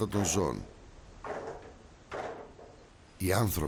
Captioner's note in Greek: ήχος μηχανημάτων που δουλεύουν